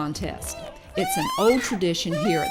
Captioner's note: hog calling in background